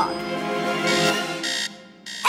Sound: buzzing

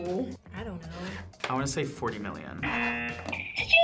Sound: buzzer; buzzer rings

